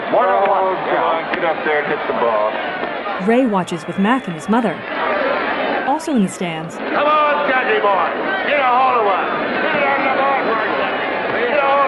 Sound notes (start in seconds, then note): 3.2 crowd noise